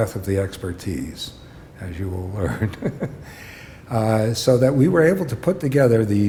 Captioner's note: chuckle